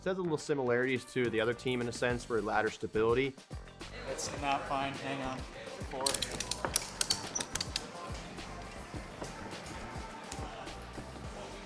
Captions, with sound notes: So, there's little similarities to the other team, in a sense, for ladder stability. It's not fine. Hang on. -Four. -[metal clacking]